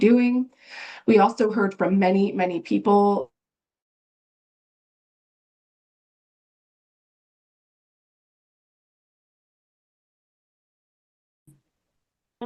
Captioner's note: pause